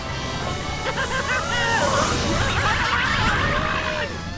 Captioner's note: yelling